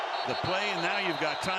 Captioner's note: whistle